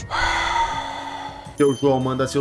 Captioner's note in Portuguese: Suspiro